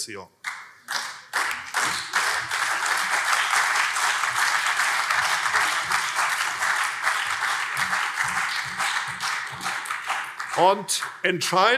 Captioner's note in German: Beifall CDU und SPD